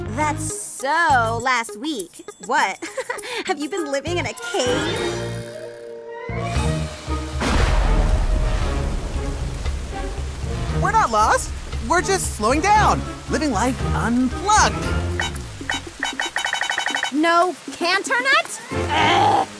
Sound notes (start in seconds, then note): 2.7 giggles; 7.4 thunderclap; 15.1 beeping